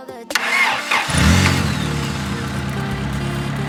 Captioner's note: car revs